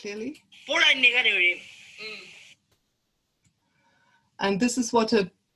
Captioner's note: non-English speech